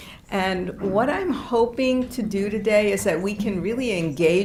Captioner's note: none